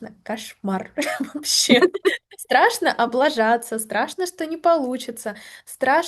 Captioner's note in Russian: смех